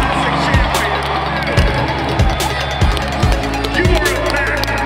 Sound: crowd cheering

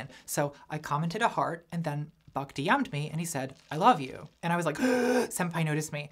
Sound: comedic inhale

